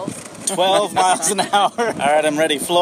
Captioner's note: laughing